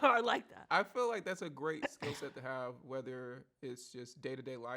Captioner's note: laughs